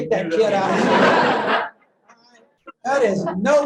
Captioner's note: laughter